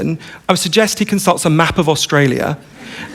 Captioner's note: laughter